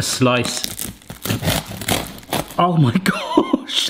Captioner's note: baguette crunches